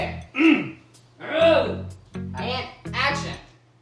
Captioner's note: both throat clearing